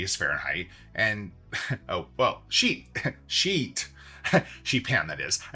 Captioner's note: laughs